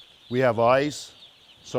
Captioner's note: chicks chirping